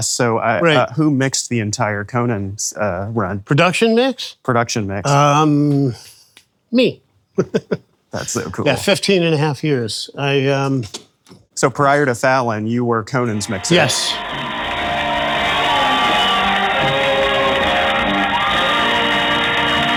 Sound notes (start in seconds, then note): 7.4 chuckles; 13.3 audience applauding; 13.4 upbeat music